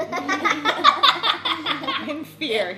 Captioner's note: laughing